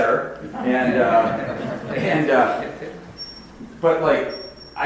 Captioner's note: audience laughs